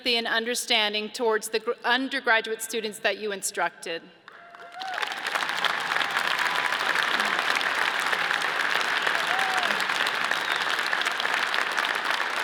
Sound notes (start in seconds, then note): 4.3 audience cheers and applauds